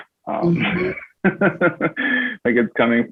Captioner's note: laughs